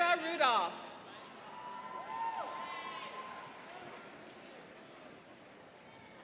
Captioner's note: cheering and applauding